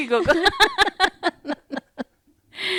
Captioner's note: laughter